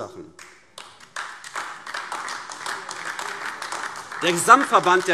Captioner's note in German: Beifall AfD